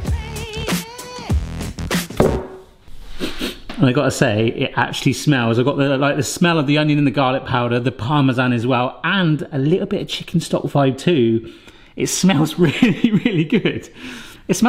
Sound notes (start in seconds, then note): 2.1 bowl thuds; 3.0 sniffs